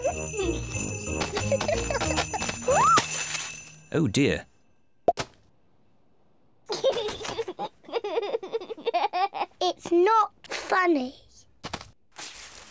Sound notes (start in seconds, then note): 6.7 giggles